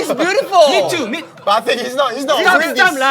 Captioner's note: holding back tears